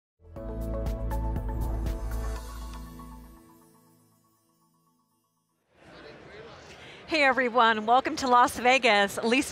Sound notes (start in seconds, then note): 0.3 soft bright music; 1.9 logo swooshing; 5.8 crowd murmuring